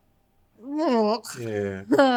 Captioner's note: groaning